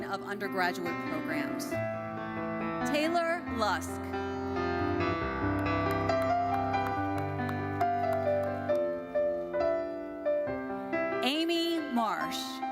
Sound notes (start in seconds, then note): 1.9 lively uplifting music continues; 4.3 lively uplifting music continues; 5.3 audience applauding